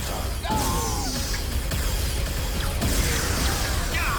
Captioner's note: explosion